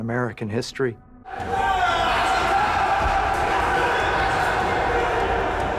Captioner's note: men shouting